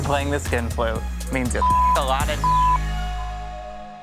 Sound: beep

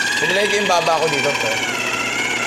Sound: none

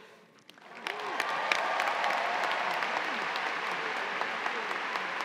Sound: cheers and applause

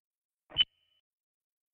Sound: recorder beep

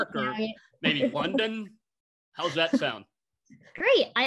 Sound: laughter

